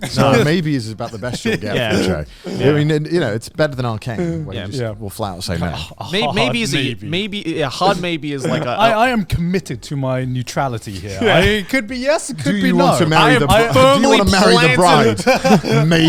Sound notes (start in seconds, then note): 8.4 laughs